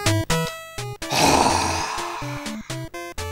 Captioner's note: sigh